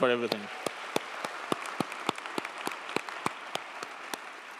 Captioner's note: crowd applauding